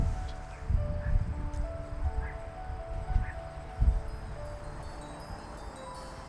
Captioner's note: light breeze